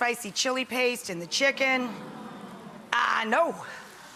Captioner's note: audience awes